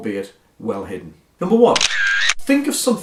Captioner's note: camera shutter clicks